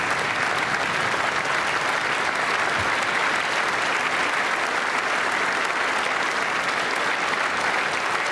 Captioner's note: applause